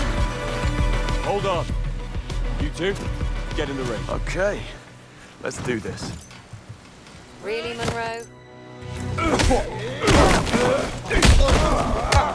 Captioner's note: groaning